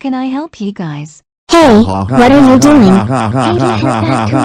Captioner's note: evil laugh